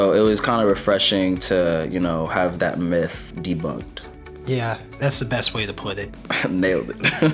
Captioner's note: both laugh